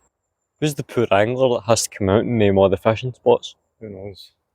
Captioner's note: none